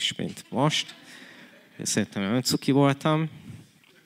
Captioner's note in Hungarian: nevetés